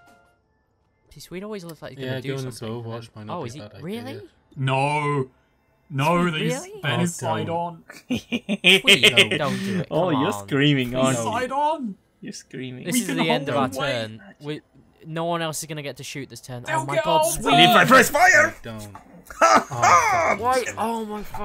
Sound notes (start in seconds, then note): 7.9 laughs